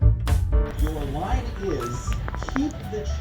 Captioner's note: on TV